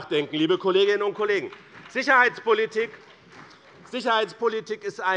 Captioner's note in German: Beifall bei dem BÜNDNIS 90/DIE GRÜNEN und der CDU